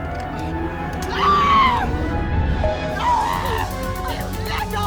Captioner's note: Miss. Fang screaming